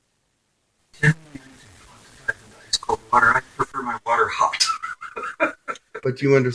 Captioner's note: laughing